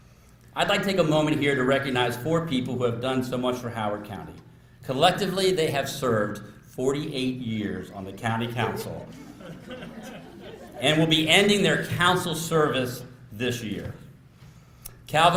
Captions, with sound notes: I'd like to take a moment here to recognize four people who have done so much for Howard County. Collectively, they have served 48 years on the county council... (LAUGHTER) >>:...And will be ending their council service this year.